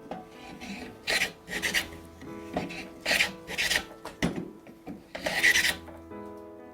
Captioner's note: planing sound